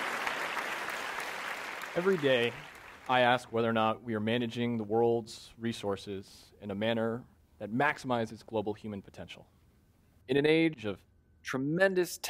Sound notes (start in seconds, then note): 0.0 applause